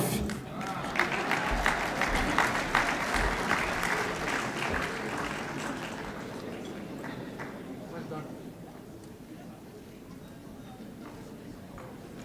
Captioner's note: applause